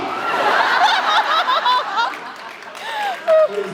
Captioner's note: laughs